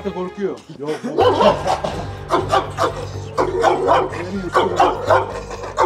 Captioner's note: barking sounds and tense music